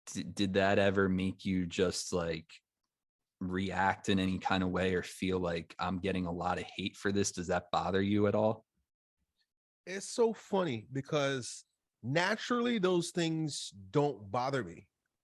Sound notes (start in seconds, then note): none